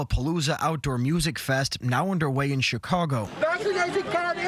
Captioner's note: cheering